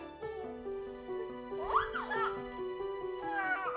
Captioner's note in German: Fröhliches Quietschen